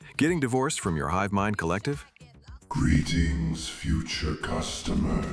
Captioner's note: heavy breathing